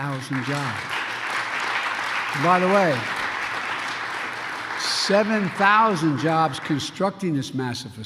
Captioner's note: applause